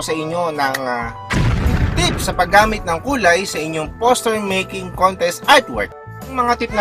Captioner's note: boom